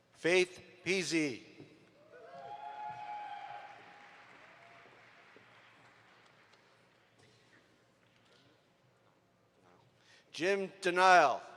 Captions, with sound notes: Faith Easy. (audience applauds) Jim Denile.